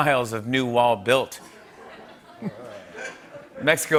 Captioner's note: laughter